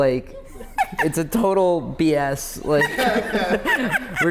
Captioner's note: laughters